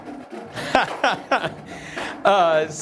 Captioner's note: laughter